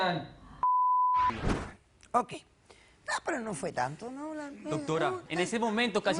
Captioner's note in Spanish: Bip